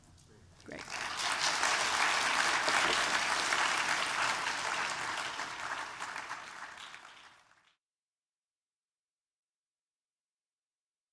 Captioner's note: applause